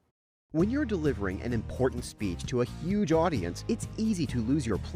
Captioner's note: voiceover